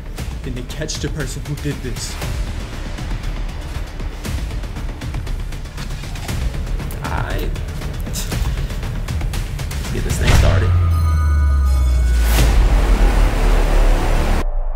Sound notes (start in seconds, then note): 8.4 Law chuckles